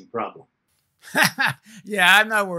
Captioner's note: chuckles